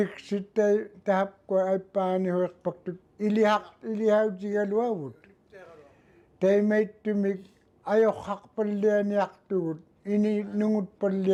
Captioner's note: speaking Indigenous language